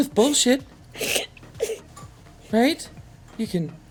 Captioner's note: sobbing